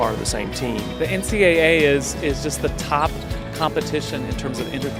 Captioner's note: voiceover